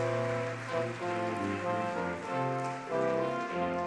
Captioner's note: audience clapping